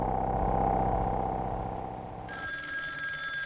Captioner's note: phone rings